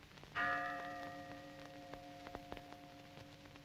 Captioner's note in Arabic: رنين الأجراس